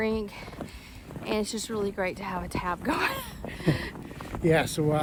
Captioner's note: laughs